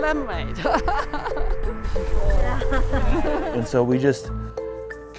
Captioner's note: laughs